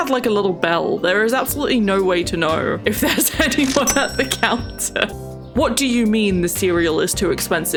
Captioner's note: laughs